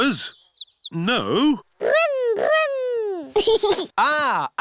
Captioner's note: giggles